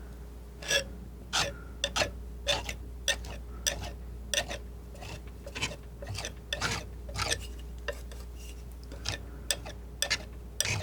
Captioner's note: scraping